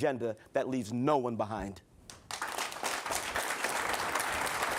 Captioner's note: applause